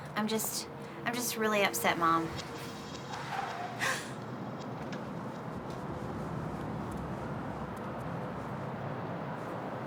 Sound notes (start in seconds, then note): 2.4 tires screech; 3.8 gasps